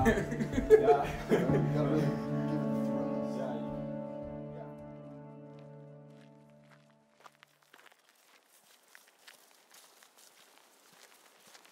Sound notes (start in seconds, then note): 3.2 laughs; 7.2 footsteps creaking